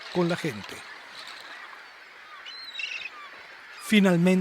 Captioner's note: beach, ocean, people and dolphin sounds